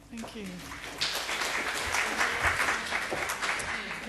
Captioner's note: applause